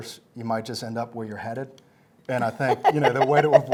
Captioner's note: chuckles